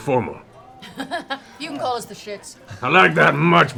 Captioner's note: laughs